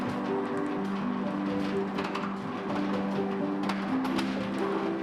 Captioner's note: blinds rattling; gentle music